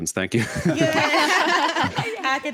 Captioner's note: hosts laugh